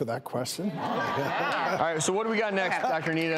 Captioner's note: laughing